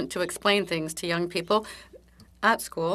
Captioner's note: speaking French